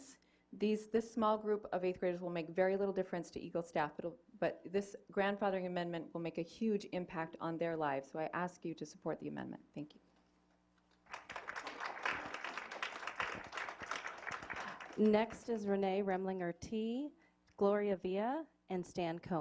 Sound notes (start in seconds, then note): 13.9 applause